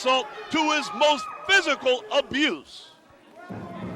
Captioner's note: crowd chatter